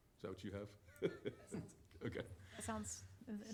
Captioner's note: laughs